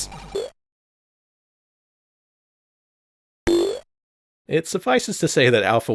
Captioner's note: bounce sfx with no background music